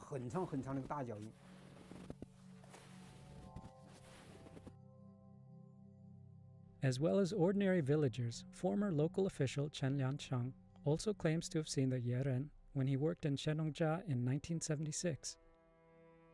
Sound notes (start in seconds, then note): 0.0 snow crunching